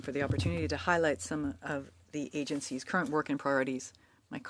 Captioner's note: speaking French